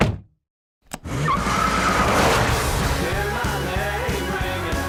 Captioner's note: tires squeal